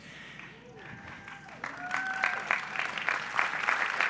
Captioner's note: audience applauds